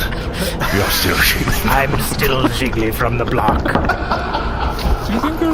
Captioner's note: laughs